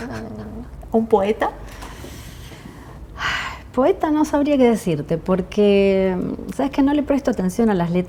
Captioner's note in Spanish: suspiro